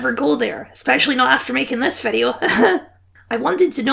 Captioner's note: nervous laugh